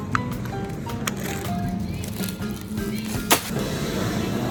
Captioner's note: bag crinkling